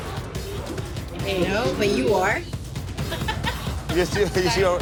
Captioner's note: laughs